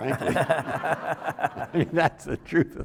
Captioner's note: everyone laughing; laughing